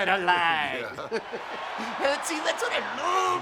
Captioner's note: crowd cheering